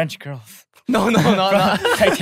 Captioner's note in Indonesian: tertawa